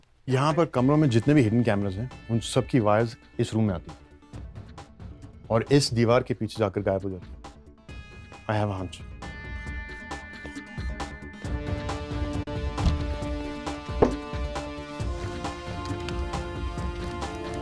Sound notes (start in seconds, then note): 12.8 door opens